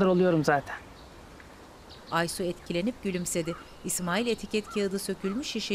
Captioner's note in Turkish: Kuş cıvıltısı sesi